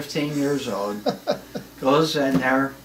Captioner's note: laughs